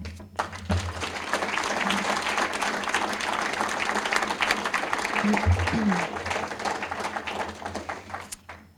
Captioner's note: applause